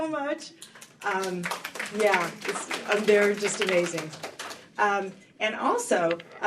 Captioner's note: applause